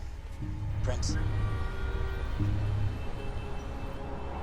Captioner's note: horns honking